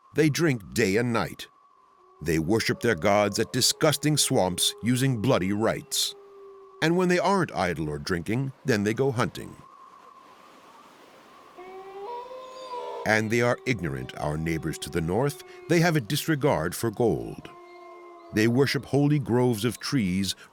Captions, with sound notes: They drink day and night. They worship their gods at disgusting swamps using bloody rites. And when they aren't idle or drinking, then they go hunting. [wolf howls] And they are ignorant, our neighbors to the north: they have a disregard for gold. They worship holy groves of trees